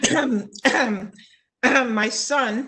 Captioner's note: coughing